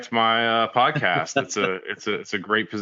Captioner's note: laughing